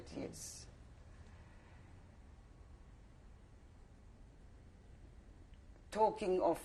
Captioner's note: pauses for 6 seconds